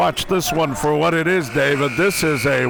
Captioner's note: buzzer ringing